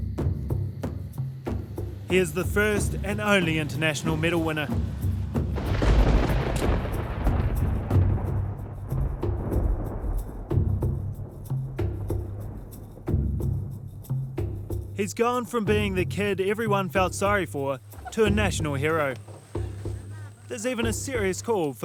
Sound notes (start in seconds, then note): 6.5 thunder; 9.6 drums beating